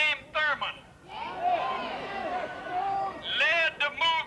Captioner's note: crowd jeers